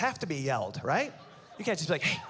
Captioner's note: whispers